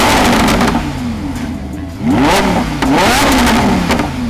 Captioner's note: engine revs